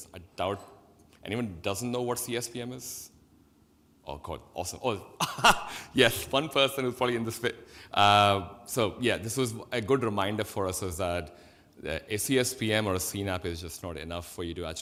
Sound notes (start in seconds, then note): 5.2 laughs